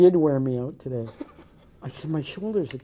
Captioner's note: laughing